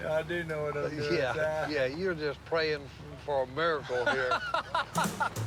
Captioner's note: laughing